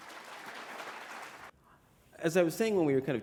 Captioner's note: applause